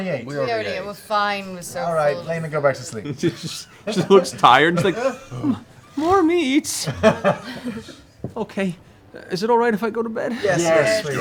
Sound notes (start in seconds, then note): 4.0 laughing; 4.9 whimpering